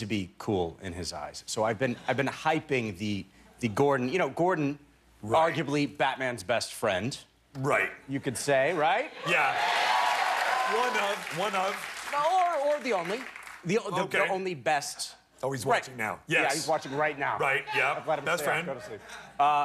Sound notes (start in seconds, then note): 7.5 cheers and applause